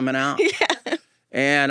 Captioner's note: laughing